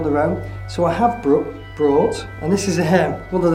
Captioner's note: speaks quickly